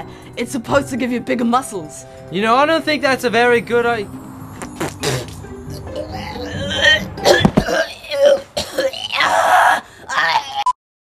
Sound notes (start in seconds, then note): 4.6 gagging and groaning; 4.6 spits